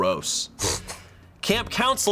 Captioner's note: crew member snickers